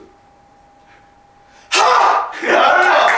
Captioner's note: sharp inhale